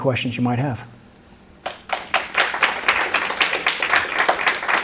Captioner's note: applause